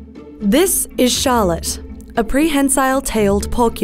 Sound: voiceover

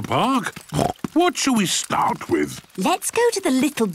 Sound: snorts

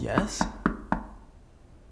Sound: knock at the door

